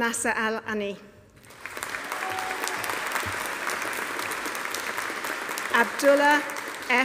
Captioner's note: audience applauding; audience cheering